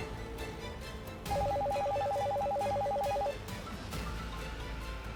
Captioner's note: phone ringing